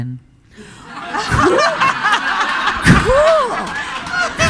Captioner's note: audience laughing